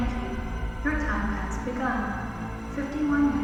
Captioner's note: synthetic voice over PA